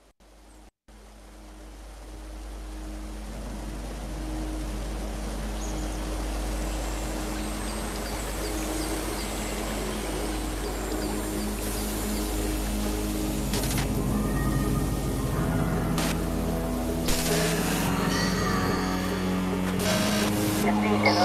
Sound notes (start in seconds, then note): 8.1 rising static sound